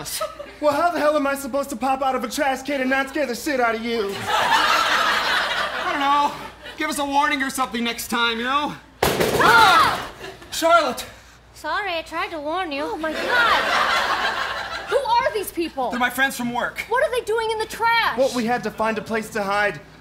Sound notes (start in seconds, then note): 9.0 repeated Banging